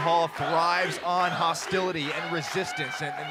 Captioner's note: crowd cheering